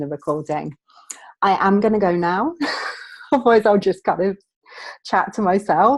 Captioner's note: laughing